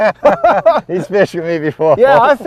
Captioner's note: laughter